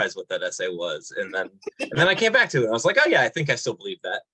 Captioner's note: laughing